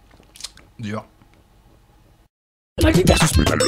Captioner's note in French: silence